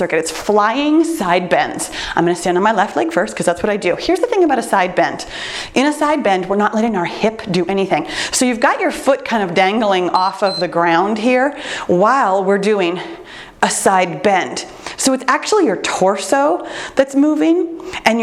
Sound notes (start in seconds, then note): 10.1 timer beeps